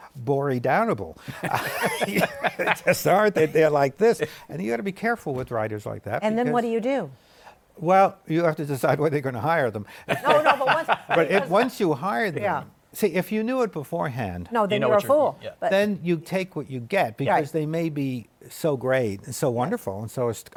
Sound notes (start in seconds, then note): 1.3 laughs; 10.1 laughs